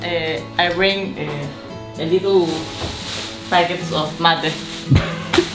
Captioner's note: foreign language; laughs